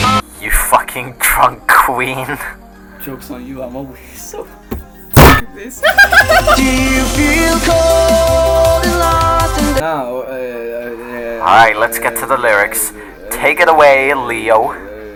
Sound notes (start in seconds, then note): 5.8 laughter; 5.8 unscripted laughter